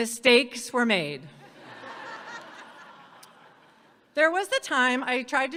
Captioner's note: audience laughs